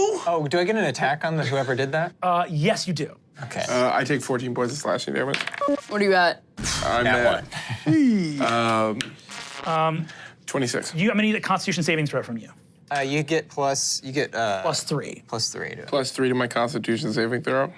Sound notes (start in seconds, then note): 4.7 engine powering down; 5.6 computer beeps; 5.7 dice rolling; 9.0 static crackling